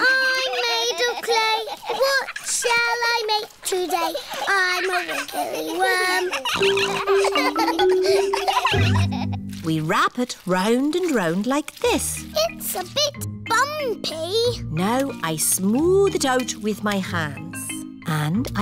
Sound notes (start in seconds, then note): 6.8 snorts; 7.6 all laughing